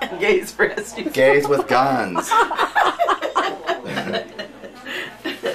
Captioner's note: laughing